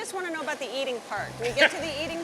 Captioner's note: laughs